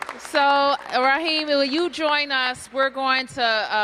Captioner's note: applause